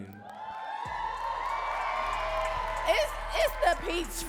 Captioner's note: audience cheering and clapping